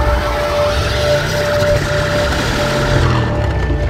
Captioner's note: tires squealing